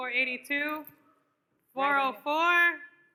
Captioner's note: none